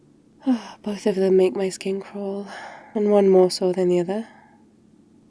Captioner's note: sighs